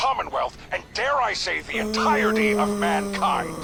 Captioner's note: groans